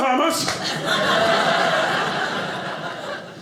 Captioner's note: audience laughing